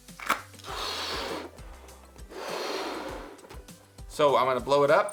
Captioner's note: blowing balloon